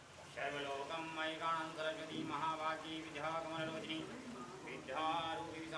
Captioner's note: man chanting in foreign language